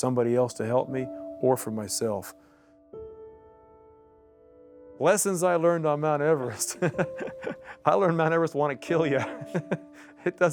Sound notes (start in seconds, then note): 6.4 laughing